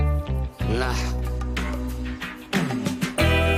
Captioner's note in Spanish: Cabo exclama